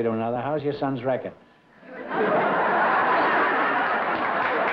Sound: laughter and applause

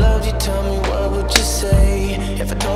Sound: slap sound

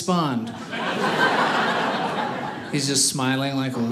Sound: audience laughing

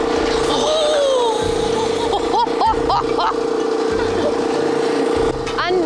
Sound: machine noise

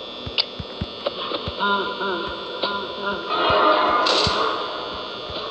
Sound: Freddy laughs

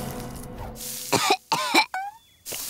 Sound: coughing

